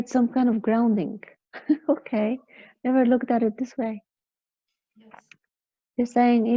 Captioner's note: laughing